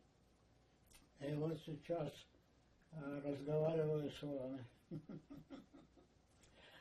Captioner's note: laughing